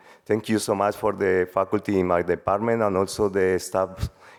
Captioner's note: none